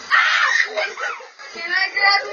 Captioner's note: kids screaming